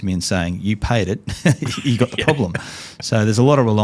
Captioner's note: laughs